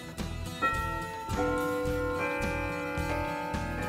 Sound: clock chimes

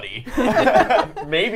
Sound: all laughing

